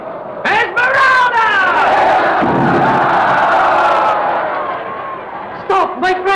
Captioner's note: crowd shouting